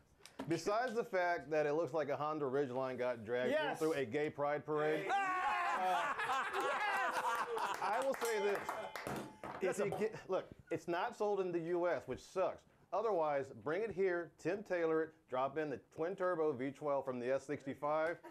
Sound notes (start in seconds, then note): 9.1 laughter; 9.2 bell Rings